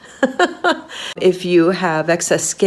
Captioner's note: laughing